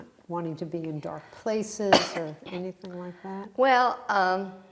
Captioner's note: coughing